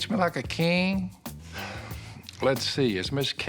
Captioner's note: sighs